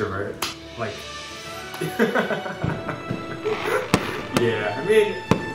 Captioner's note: laughter